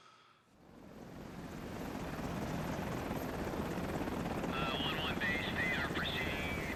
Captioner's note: helicopter fluttering